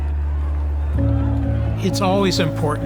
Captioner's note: cheering